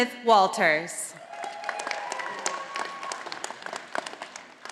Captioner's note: audience applauding